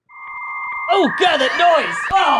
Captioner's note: phone ringing